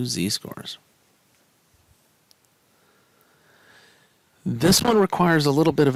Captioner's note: no Speech Detected